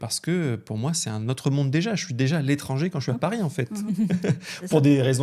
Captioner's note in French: rires